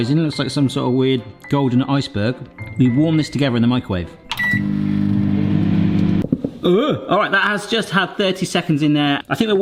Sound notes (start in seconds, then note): 4.3 microwave beeping; 4.3 microwave whirring